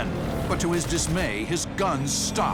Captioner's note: gunfire